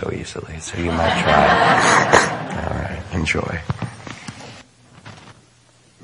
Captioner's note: audience laughing